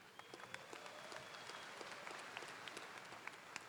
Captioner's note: applause